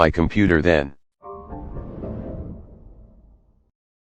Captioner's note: Anti Killer Windows XP Shutdown Sound